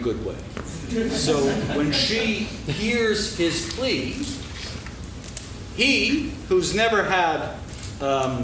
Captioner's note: laughing